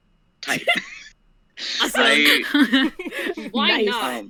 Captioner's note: laughter